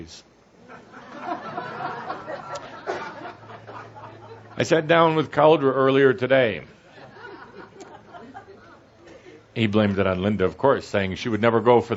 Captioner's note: audience laughter